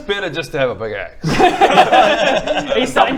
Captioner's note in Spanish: risas